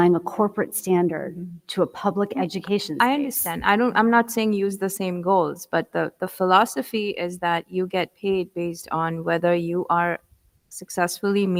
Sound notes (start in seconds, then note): none